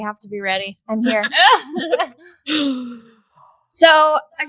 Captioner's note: all laughing